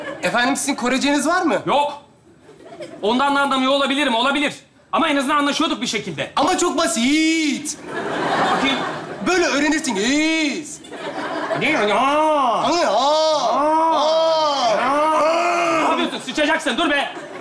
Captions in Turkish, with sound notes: efendim sizin koreceniz var mı -yok ondan da anlamıyo olabilirim olabilir ama en azından anlaşıyoduk bi şekilde ama çok basit böyle öğrenirsiniz (Korece konuşur gibi taklit ederler) napıyosun s*** dur be